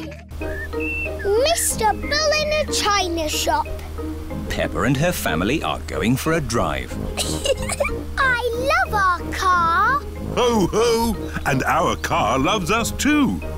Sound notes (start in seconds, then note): 7.1 giggling